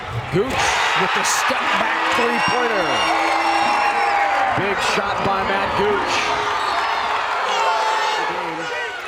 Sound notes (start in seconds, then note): 6.8 crowd cheers